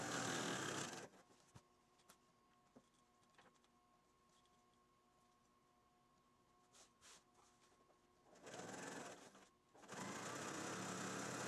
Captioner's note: sound of sewing machine